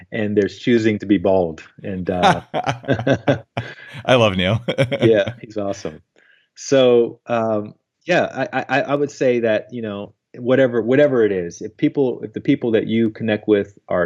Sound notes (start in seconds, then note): 2.0 both laughing; 4.9 laughs